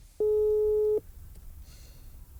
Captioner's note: phone beeps